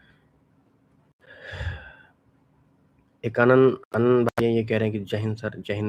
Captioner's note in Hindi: अचानक ज़ोर से सांस लेने की आवाज़